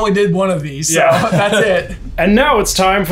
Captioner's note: laughs